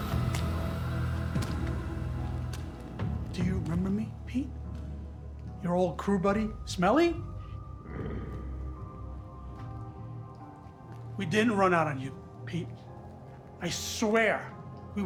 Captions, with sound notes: (eerie music) Do you remember me, Pete? Your old crew buddy, Smelly? (Pete growls) We didn't run out on you, Pete, I swear.